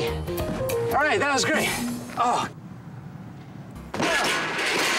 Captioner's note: groans